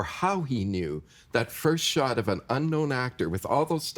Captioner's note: none